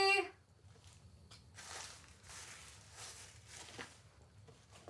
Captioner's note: leaves rustle